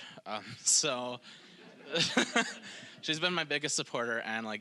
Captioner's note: audience laughing